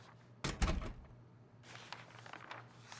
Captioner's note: classroom door closes